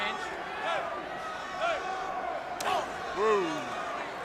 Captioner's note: crowd chatter